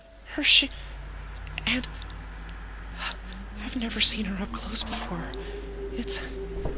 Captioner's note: gasp